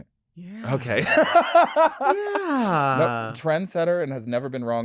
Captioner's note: laughing